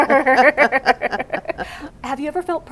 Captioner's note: laughter